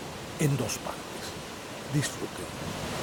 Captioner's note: cascade sound